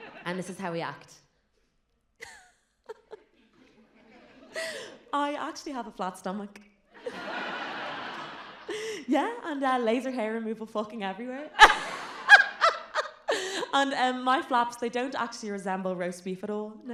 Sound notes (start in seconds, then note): 2.8 polite giggle; 11.5 more giggling